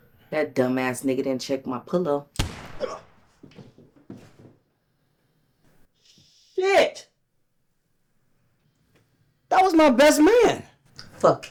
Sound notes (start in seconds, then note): 2.3 gun shoots; 2.8 Kane grunts